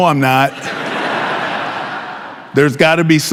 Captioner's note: audience laughing